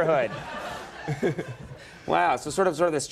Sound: audience laughing

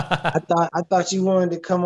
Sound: laughing

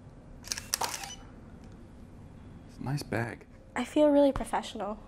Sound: camera shutter clicks

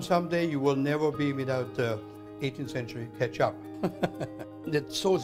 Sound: laughs

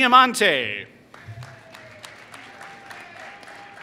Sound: applause

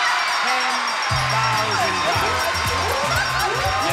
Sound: audience cheers

